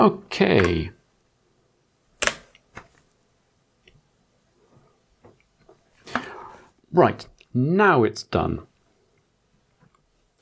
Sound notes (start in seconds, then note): 3.0 blank Audio